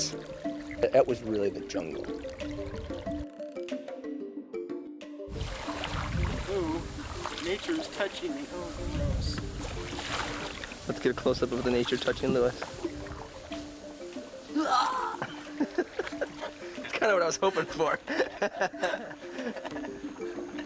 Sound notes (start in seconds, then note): 16.5 shout and laughter